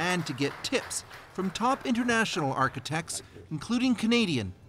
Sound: applause

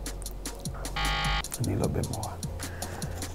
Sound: buzzer beeps

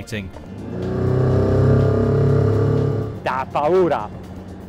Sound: motor revs

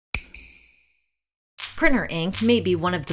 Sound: snap

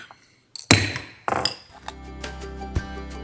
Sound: gavel claps; bright music

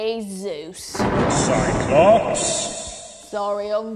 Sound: thunder strike

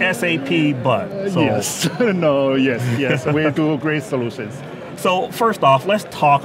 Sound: laughs

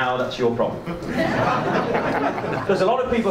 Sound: audience laughs

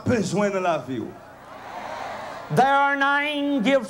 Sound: crowd cheering

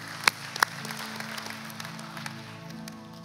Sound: applause

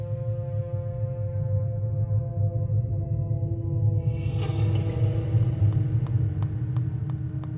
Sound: none

